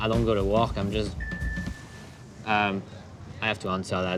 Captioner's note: cell phone rings